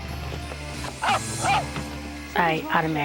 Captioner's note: barks